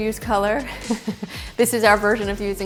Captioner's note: chuckles